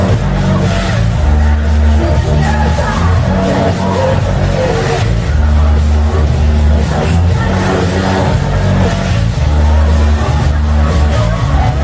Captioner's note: clap